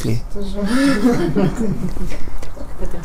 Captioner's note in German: Lachen